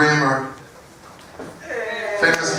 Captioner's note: applause